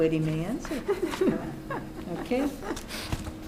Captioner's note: laughs